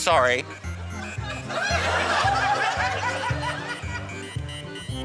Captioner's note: laughter